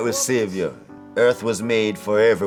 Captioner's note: laughs